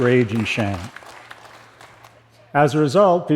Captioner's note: applause